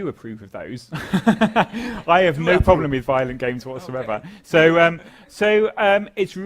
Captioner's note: laugh